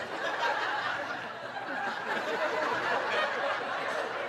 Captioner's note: audience laughing